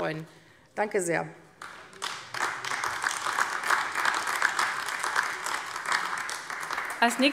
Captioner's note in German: Beifall AfD